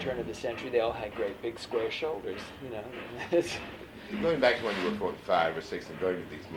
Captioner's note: laughs